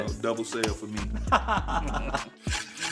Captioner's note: laughter